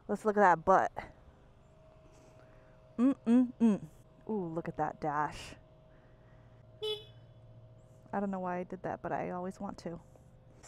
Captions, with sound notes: Let's look at that butt. Look at that dash. (horn honking) I don't know why I did that, but I always want to.